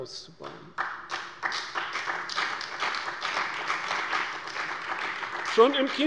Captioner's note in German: Beifall bei der CDU und dem BÜNDNIS 90/DIE GRÜNEN